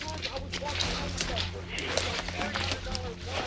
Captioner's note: branches crunching